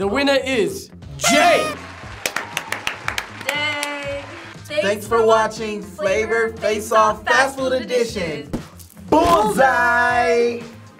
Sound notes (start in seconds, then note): 1.1 party horn toots; 1.2 audience applauding; 1.6 clapping